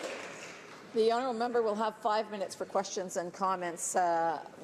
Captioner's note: some Applause